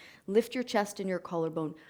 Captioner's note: none